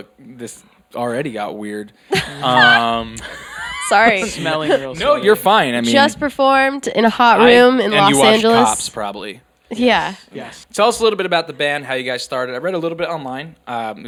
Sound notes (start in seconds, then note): 2.1 laughing